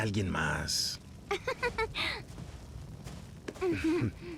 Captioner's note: giggles